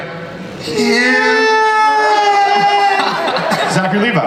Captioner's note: Greg and Zachary squeal; panelists and audience laugh